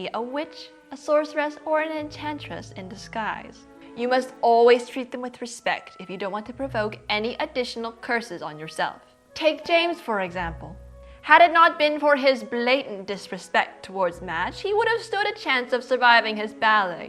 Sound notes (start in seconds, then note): none